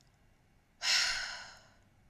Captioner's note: sigh